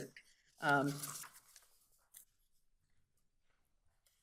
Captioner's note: paper flapping